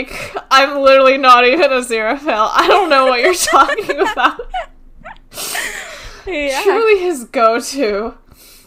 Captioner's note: laughs; both laugh